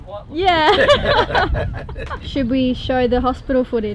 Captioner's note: laughing